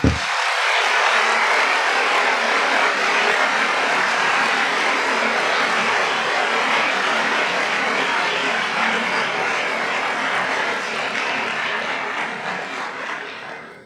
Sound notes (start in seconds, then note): 1.0 applause